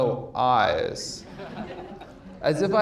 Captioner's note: audience laughs